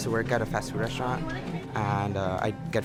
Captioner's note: students chattering inside the classroom